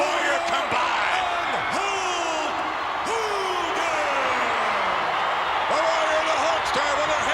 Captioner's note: applause